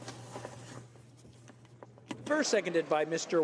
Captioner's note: speaking in french